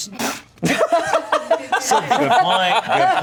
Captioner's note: everyone laughing